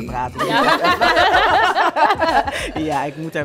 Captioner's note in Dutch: gelach